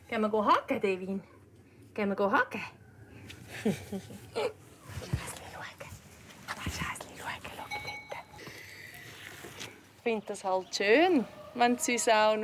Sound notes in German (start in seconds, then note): 5.3 Flüsternd